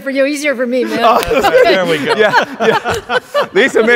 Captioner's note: laughs